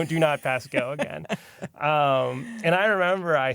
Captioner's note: laughs